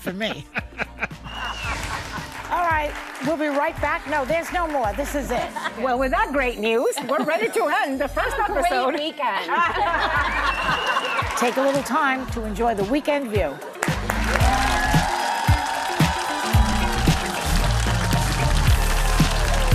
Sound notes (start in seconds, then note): 13.6 applause